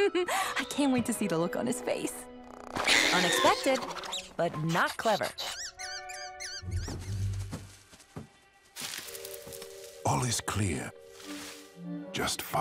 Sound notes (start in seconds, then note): 0.3 laughs; 5.4 distressed squeaking